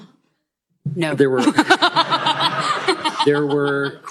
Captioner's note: laughter